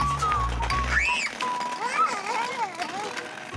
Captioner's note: squeals excitedly